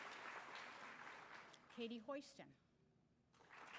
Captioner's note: applause